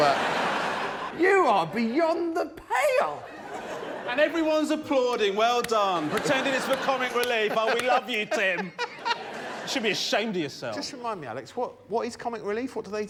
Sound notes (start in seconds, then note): 1.4 cheers; 1.4 laughter; 6.6 applause